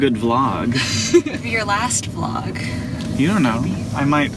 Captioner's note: laughs